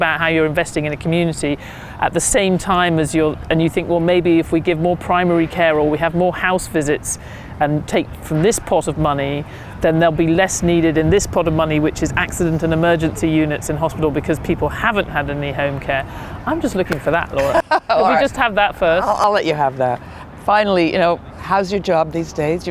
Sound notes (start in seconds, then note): 17.3 laughs